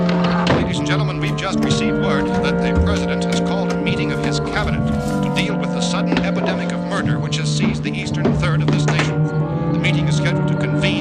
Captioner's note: radio news playing in the background